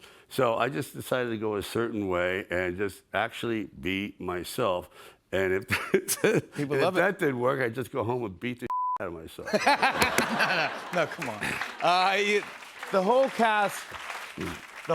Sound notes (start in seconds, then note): 9.4 laughter